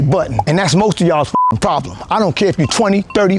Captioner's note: beep